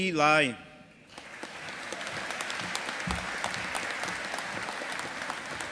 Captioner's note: audience applauding